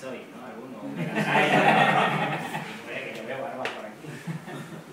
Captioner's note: laugh